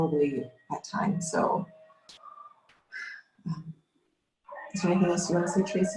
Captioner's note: sighs